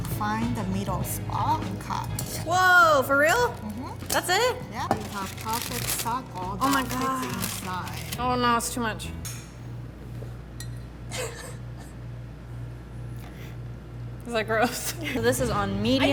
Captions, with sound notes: - Find the middle spot and cut here. - Whoa, for real, that's it? - Yep, you have perfect circle that fits inside. - Oh my god! Oh no, that's too much! (laughs) Is that gross? (laughs) So this is on medium.